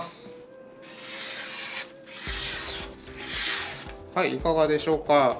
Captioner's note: cutting paper